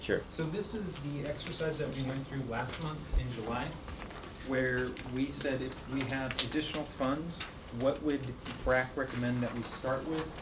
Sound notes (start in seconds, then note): none